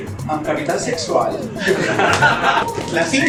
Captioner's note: laughs